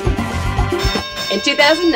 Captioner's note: upbeat funk music; bell dings